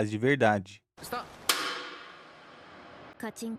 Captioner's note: clapperboard sound echoing